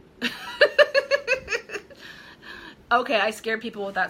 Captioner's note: laughing